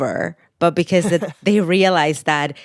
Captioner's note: laughter